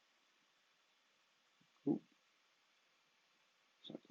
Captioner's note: speaks faintly